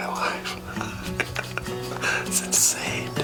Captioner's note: laughs